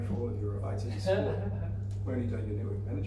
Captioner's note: laughing